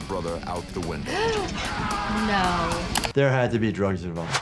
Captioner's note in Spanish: jadea